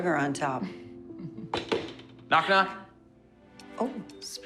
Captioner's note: chuckling